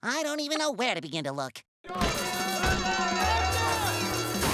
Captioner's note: screaming, alarm sounding; alarm sounding